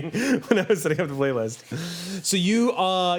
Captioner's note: laughing